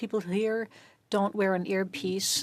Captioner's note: speaking French